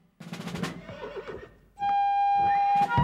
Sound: horses neighing; patriotic melody

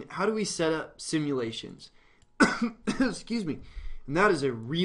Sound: coughing

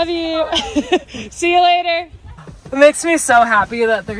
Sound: laughing

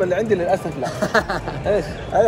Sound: laughs

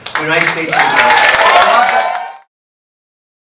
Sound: crowd cheering and clapping

